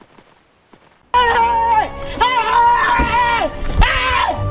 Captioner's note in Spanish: revela su escondite y grita